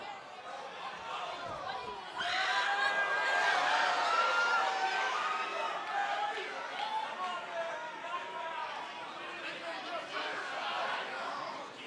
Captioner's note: cheers & applause